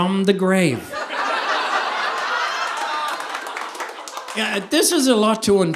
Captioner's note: audience laughing